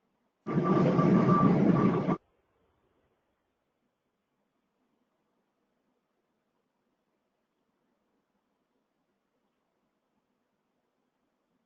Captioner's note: no audible response